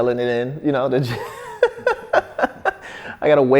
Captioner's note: laughs